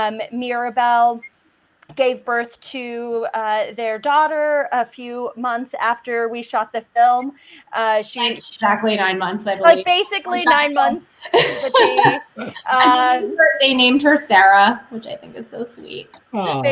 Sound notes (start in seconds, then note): 11.1 laughing